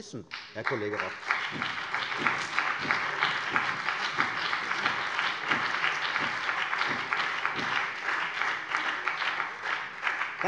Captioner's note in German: Beifall CDU und BÜNDNIS 90/DIE GRÜNEN